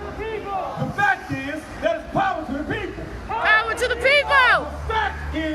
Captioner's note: crowd